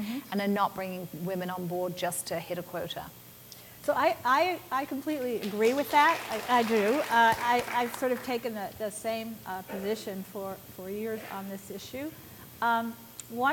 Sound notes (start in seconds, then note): 5.4 applause